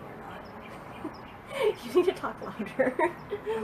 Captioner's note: laughs